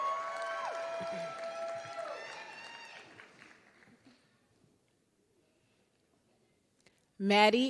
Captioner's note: applause